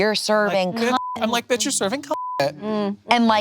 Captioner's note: beep